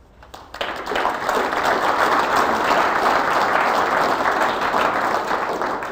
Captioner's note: applause